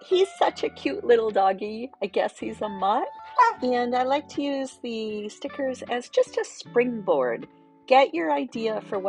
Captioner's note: woof